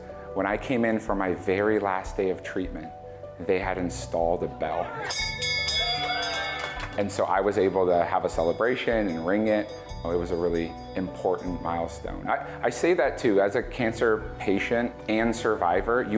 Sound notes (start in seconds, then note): 5.0 bell ringing; 5.6 crowd cheering